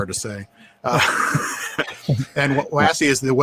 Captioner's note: laughing